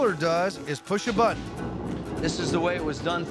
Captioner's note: rumbling sound